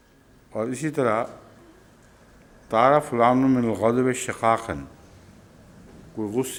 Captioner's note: Arabic